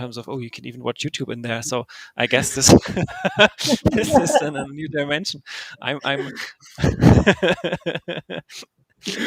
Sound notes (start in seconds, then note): 6.0 laughs